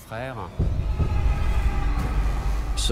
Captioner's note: screams